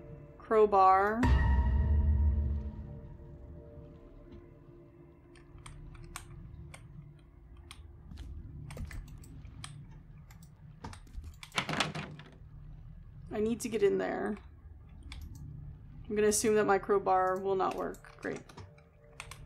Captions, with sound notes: Crowbar. [Door Rattles] "I need to get in there." I'm gonna assume that my crowbar will not work. Great.